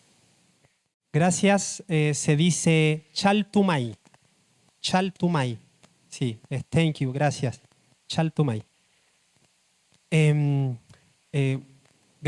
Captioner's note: speaks Spanish